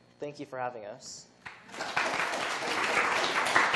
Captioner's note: applause